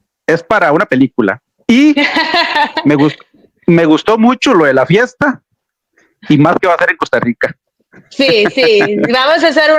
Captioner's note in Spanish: risas